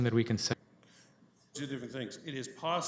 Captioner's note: audio drop